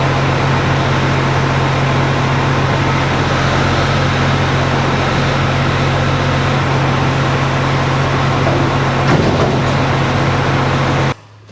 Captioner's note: engine revving